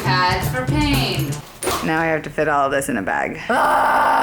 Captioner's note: groans